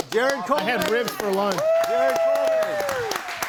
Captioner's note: group cheers and applauds